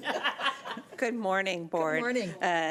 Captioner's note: laughing